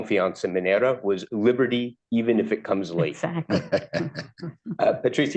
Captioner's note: laughter